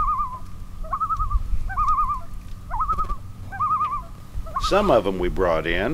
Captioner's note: loon calls